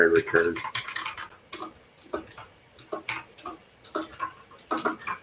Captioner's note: keyboard clacks